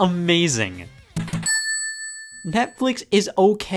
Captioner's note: cash register ring